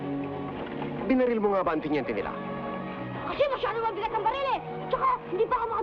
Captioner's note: people speaking in Tagalog